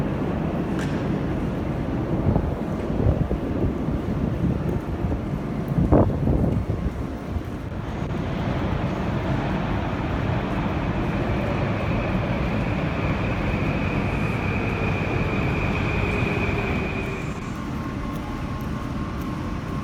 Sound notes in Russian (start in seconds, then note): 13.4 прибытие поезда на станцию